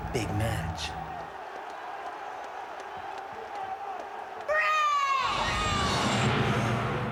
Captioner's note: applause